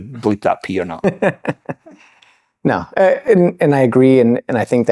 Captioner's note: laughter